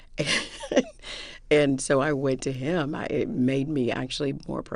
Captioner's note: laughter